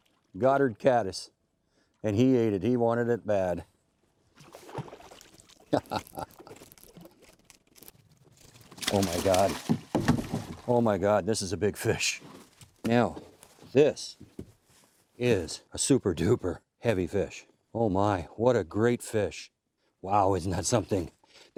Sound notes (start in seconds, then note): 5.6 laughing